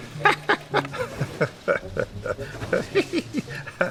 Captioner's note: chuckles; both chuckle